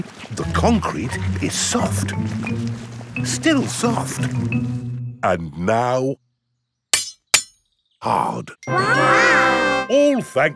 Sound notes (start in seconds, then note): 7.0 shovel clanks